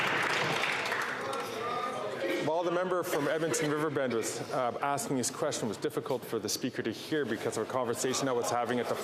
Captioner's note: some Applause